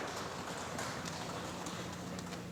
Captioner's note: applause